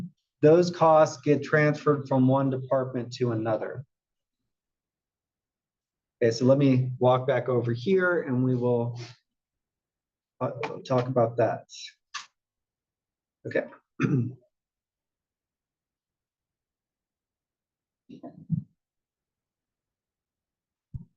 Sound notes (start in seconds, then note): 13.9 cough